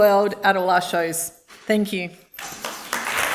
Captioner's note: applause